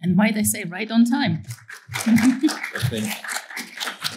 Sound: applause

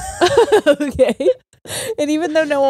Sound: both laughing

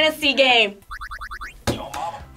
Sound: game beeping; buzzer

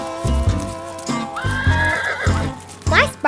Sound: horses neighing; chill country music

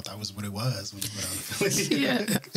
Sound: laughter

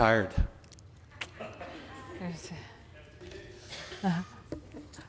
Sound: audience laughing

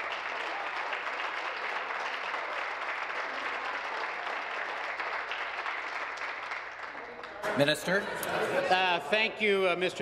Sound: applause

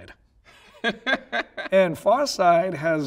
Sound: laughing

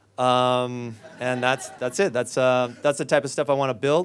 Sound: audience laughs

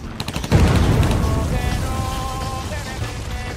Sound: bomb explodes

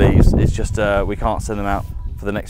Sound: wind whistling

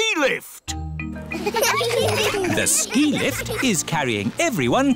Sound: laughter

